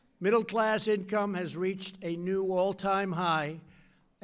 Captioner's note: none